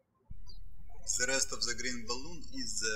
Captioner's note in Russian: птички щебечут